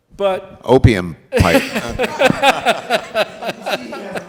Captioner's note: all laughing